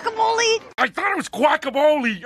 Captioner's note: scoffs